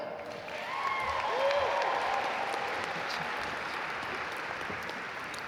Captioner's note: audience cheer and applaud